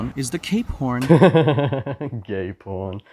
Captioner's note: haughty chuckle